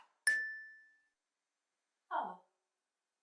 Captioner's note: bell dings